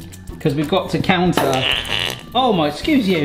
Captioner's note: bottle squelching